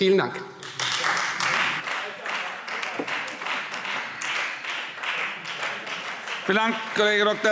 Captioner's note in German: Beifall Freie Demokraten